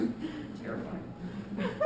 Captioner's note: laughter